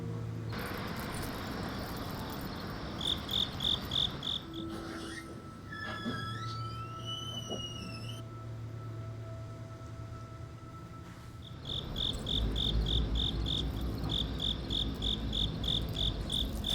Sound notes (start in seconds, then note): 4.1 crickets chirping; 6.1 door creaking; 12.2 crickets chirping